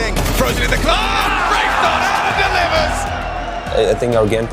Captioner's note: people shouting